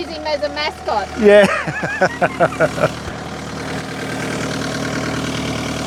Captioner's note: laughing